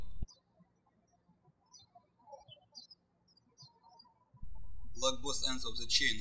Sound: birds chirping

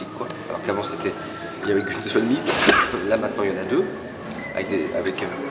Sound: cough

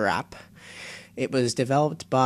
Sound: inhale

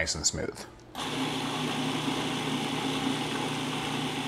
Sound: mixer grinding

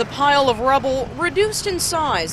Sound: sound of cars

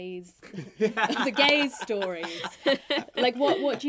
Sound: all laughing

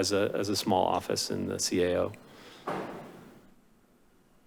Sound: door slams

